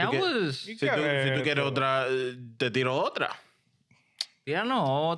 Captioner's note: speaking In Foreign Language